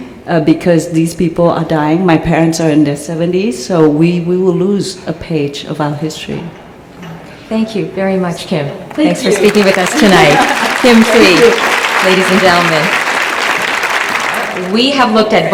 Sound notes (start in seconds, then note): 11.9 applause